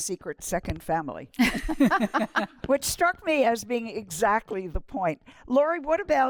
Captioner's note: laughter